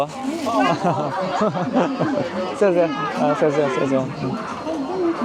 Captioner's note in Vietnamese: Tiếng cười